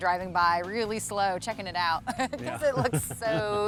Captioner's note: laughs